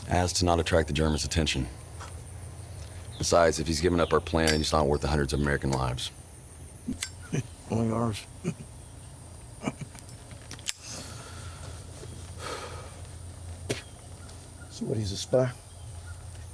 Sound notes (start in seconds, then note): 9.5 soldier chuckling; 13.7 soldier spitting